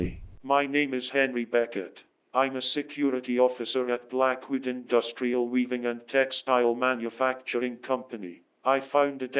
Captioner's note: 911 call